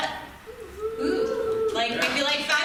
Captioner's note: small audience reaction